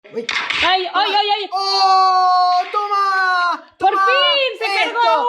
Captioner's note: screams